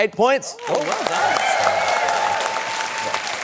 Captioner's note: cheering, applause